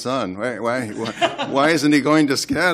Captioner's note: laughter